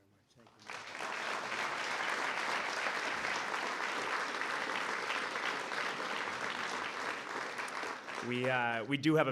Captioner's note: applause